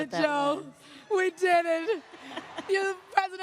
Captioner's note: applause